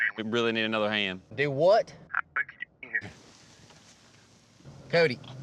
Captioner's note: cell phone breaks up